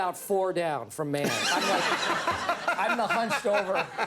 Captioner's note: audience laughs; laughs